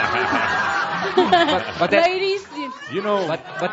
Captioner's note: lots of laughter